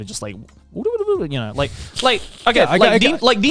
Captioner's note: blabbering